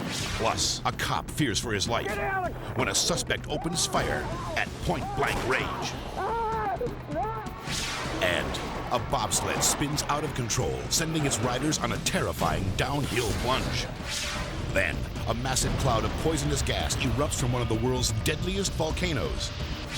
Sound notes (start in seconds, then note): 5.8 cop screaming